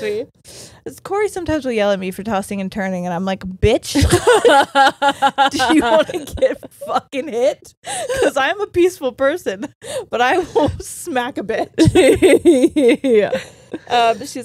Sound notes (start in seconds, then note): 4.0 laughs; 11.8 laughs